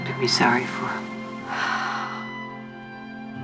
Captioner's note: sighs